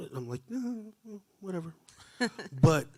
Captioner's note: chuckling